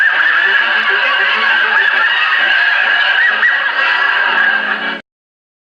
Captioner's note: laughter from audience